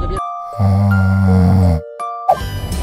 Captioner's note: fictitious snoring